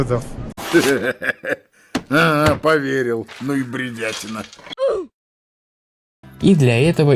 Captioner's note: laughter